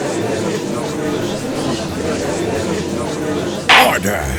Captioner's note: gallery chattering